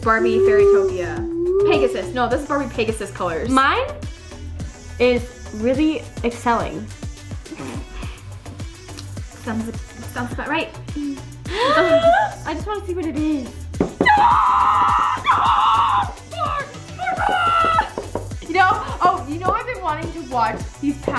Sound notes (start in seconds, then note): 14.0 screaming